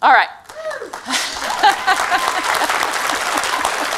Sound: applause

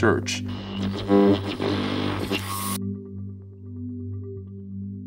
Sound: radio static scrunching

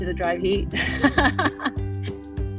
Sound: laughter

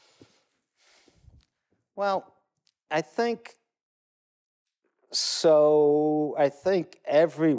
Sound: sigh

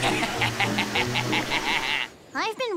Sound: emotion laughs

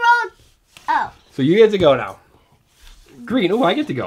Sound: voiceover

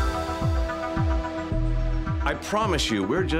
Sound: none

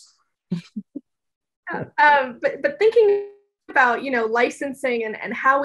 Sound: laugh

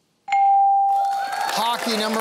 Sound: cheering and applause

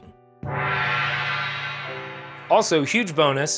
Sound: gong rings

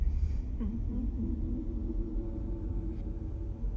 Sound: woman humming

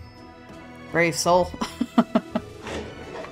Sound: laughs

